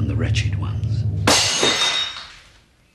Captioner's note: crashing